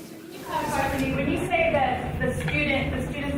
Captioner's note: speaking faintly